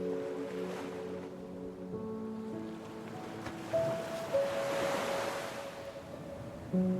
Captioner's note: gentle music continues; waves crashing